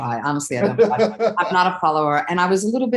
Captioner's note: chuckles